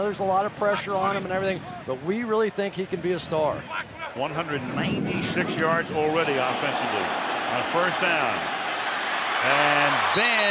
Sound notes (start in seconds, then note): 6.1 cheering